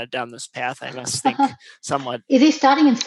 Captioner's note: laugh